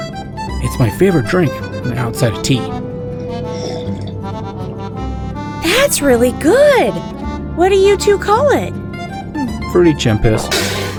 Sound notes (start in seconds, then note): 3.1 sip